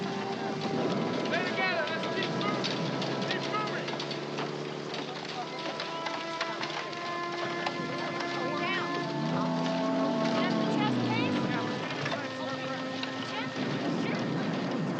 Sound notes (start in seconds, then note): 9.1 indistinct background chatter